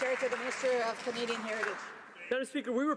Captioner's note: some Applause